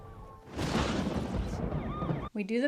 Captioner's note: thunder crashes